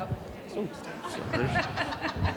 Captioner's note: laughing